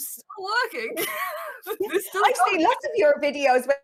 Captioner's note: chuckles